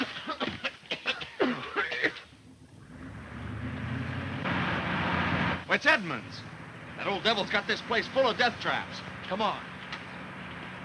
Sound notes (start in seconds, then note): 0.0 group coughing; 3.5 engine revving